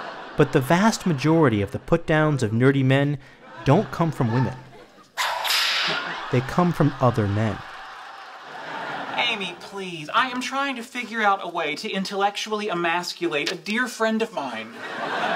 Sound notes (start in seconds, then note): 5.2 sound of cracking whip